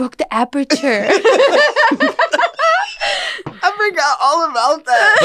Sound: laughter

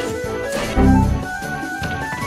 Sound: Windows error

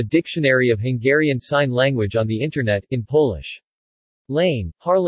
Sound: in Polish

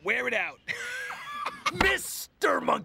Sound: guffaws

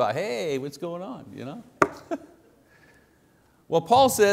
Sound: laughing

